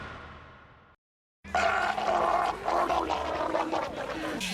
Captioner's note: gargling